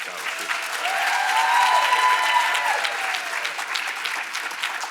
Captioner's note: audience applauds